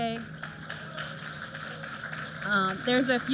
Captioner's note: applause